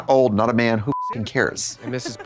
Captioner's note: beep